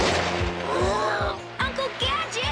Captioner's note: gasps